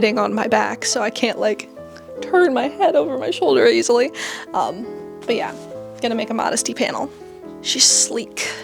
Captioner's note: voice breaking